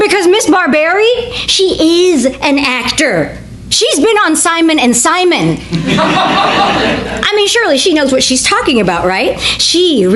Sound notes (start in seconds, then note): 5.7 audience laughs